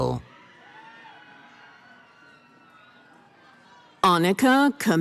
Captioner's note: cheering